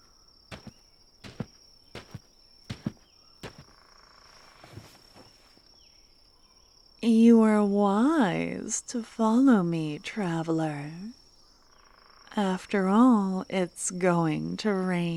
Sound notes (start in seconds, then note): 4.6 sound of a tent flap opening, campfire noises and soft music play